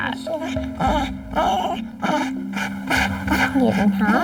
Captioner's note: whines